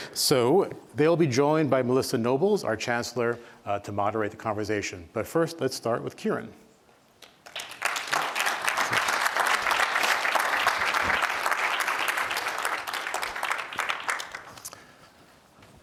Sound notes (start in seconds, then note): 7.2 applause